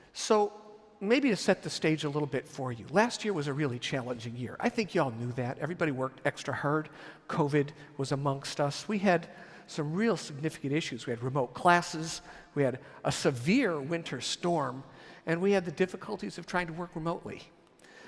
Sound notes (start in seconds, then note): none